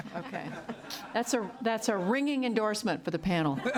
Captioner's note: laughter